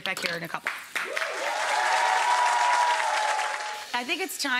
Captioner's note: audience cheers and applauds